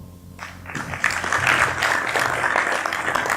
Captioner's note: applause